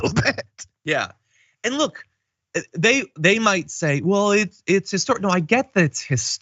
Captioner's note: laugh